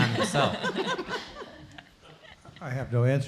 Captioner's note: laughter